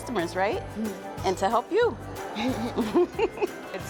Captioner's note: laughter